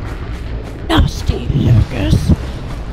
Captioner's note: mocking